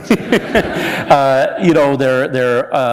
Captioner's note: laughter